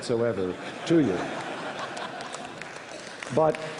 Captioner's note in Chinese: 笑聲